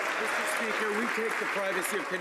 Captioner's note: some Applause